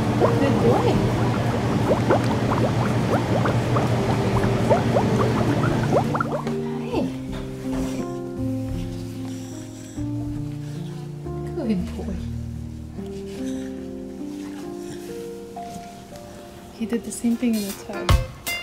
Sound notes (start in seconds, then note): none